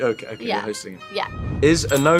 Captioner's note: air whooshing